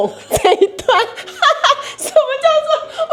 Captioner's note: laughs